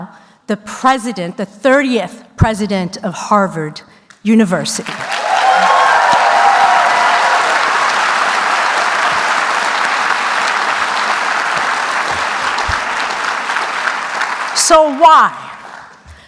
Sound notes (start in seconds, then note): 4.8 applause